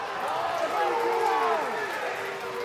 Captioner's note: crowd boos